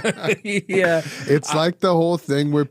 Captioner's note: both laughing